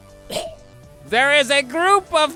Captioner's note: chokes